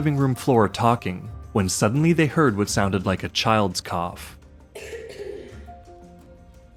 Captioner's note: youth coughing